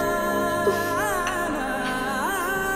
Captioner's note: Chuckles